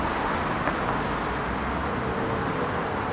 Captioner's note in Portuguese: sons da rua